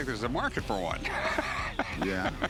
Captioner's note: laughter